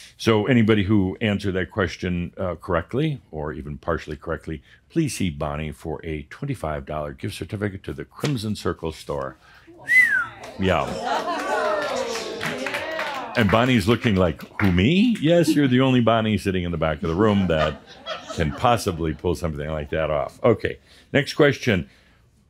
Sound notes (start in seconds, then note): 9.8 whistles; 10.4 audience says “Whoaa!” and “Yeahh!” and some applause